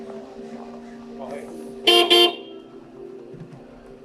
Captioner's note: ominous music; horn beeps; ominous music